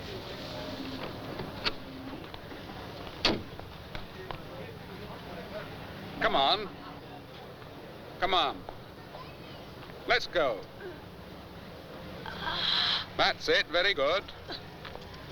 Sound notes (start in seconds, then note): 10.5 grunting